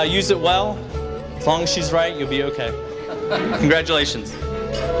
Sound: laughter

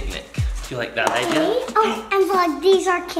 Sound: gasps

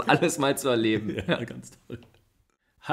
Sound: laughs

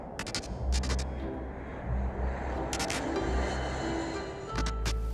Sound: title statically buzzing; airplane whooshing

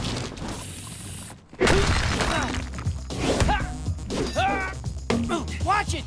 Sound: grunting

